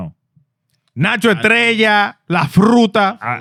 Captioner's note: speaking Spanish